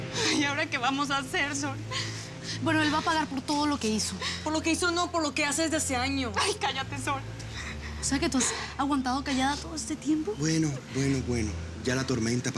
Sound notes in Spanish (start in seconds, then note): 7.4 Solloza